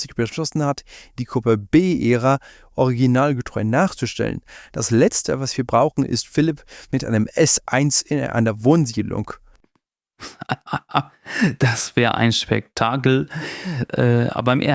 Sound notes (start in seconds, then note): 10.2 laughs